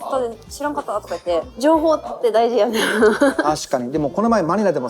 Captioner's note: laughs